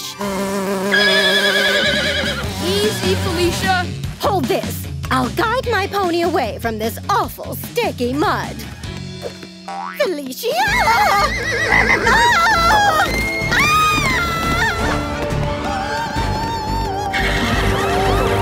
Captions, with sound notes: [neighing] -Easy Felicia. -Hold this. I'll guide my pony away from this awful sticky mud. Felicia! [screaming] [screaming]